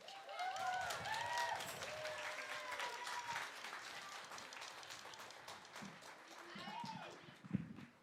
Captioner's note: applause